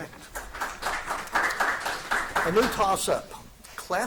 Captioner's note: audience applauding